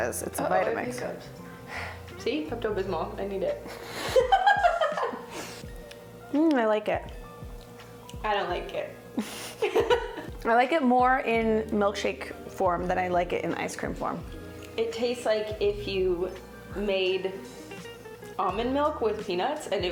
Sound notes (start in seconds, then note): 3.8 laughing